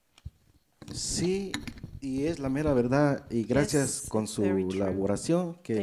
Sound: speaks in foreign language

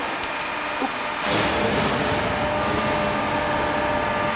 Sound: dull machine whirring, rumbling in the background

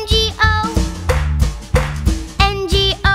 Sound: clap

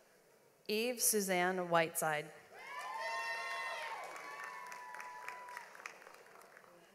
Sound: audience applauds

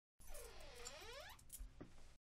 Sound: door creaks

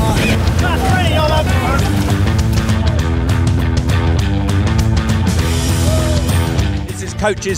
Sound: shouting

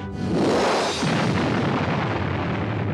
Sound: explosion

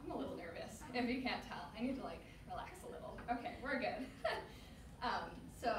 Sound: laughs

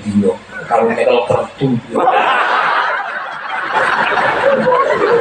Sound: laughs

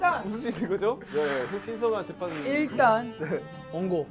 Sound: laugh

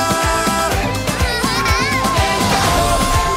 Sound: laughs

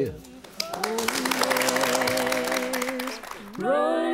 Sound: audience applauding

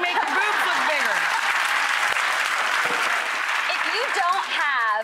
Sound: applause

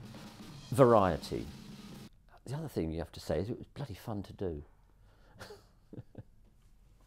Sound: chuckles

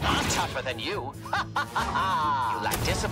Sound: laughter

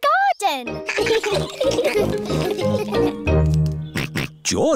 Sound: all laugh; snorts

